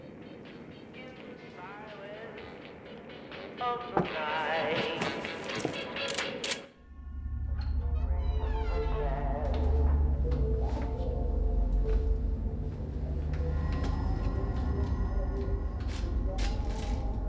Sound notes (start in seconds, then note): 7.7 door creaking; 8.5 faint radio music playing